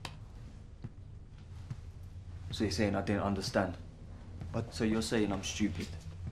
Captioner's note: none